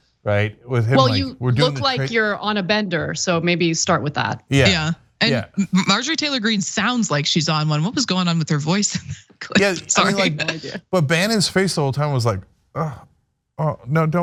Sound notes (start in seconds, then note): 8.7 laugh